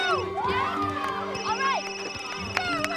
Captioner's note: ringing continues